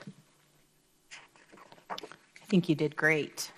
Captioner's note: paper rustles